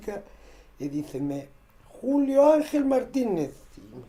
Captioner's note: in Spanish